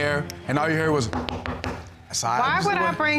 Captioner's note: knocks on wood